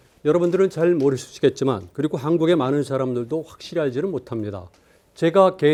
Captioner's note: speaking in Korean